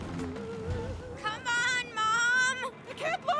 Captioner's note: shouting